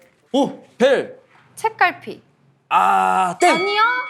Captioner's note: hah